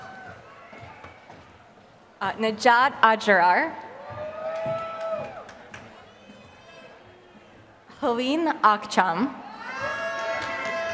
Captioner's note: applause